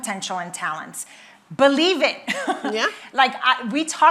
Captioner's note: laughs